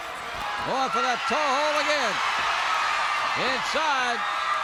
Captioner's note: crowd cheers